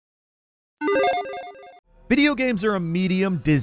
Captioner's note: retro video game sounds